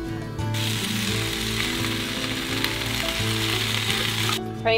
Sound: food sizzling

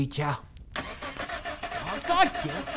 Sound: engine revving

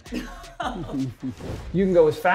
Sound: whimpers

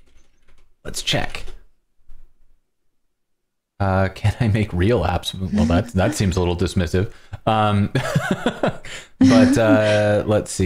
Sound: laughter

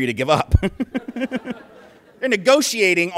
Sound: laughter

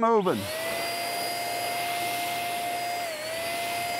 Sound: spray gun buzzing

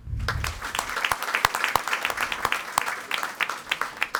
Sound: audience applauding

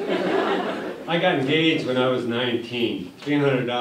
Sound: laughter

